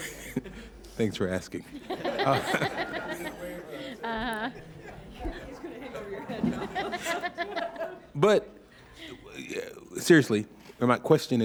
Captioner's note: laughter